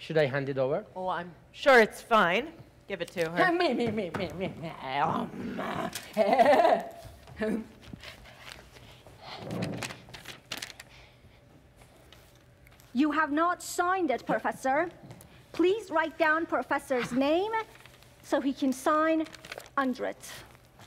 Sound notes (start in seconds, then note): 5.2 Sharik softly snarling; 6.1 Sharik softly chuckles